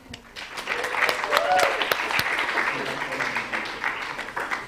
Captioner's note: applause